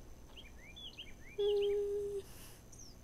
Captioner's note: hums in contemplation